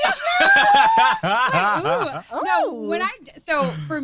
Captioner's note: laughs